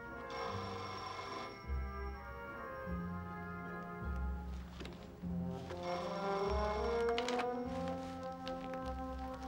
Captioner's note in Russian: Телефонный звонок